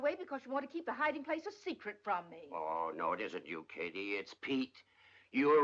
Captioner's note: none